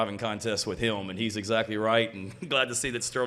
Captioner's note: chuckles